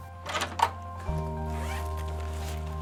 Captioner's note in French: ouverture de la porte